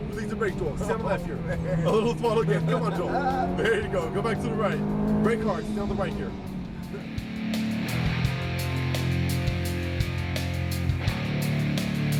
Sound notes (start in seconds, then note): 0.8 laughs; 2.7 engine revs loud